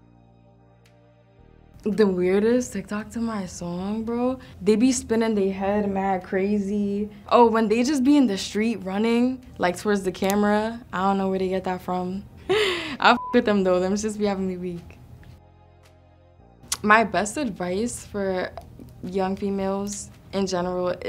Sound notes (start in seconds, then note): 0.2 jazzy music; 13.1 beep; 15.5 jazzy music